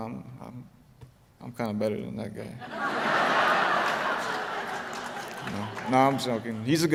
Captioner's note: laughter